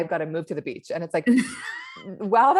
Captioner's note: laughs